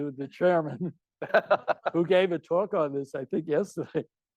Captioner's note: laughing; audience member laughing